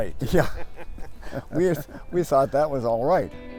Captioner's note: laughing